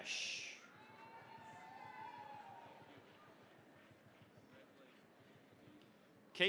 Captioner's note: cheering, applause